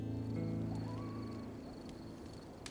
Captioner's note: coyote howling